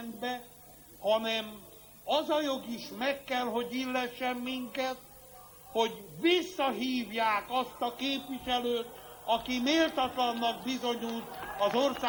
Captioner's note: applause